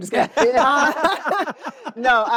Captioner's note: laughter